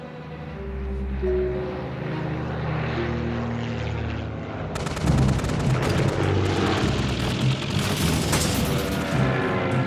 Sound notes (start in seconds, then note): 4.8 gunfire